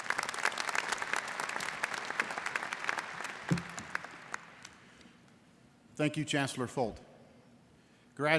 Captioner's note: applause